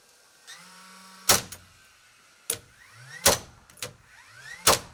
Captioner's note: nail gun popping